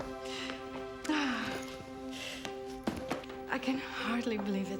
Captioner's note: sighing